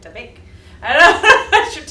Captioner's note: laughter